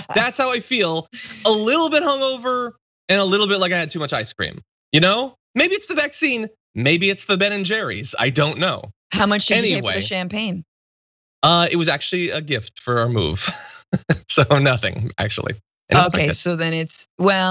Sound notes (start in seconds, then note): 11.4 laugh